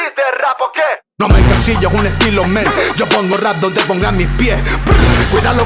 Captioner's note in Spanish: Prrr